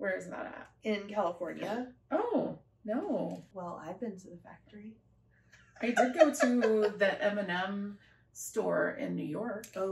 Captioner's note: laughter